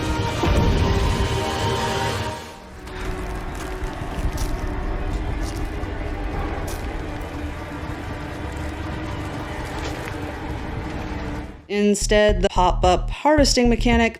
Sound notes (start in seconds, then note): 0.2 dramatic music; 2.6 ominous music; 4.1 icy crunch; 9.4 heavy dragging; 10.4 ominous music